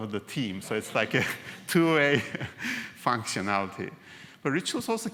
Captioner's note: laugh